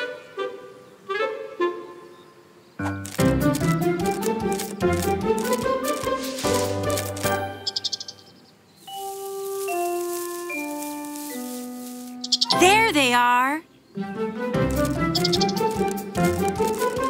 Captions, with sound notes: (playful music) (branch crunches) (leaves rustling) (squirrels chirping) (grass rustling) There they are! (playful music)